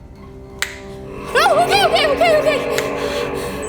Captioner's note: snaps; snaps